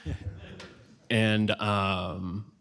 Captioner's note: laughter